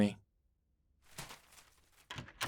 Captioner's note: paper rustling; door opening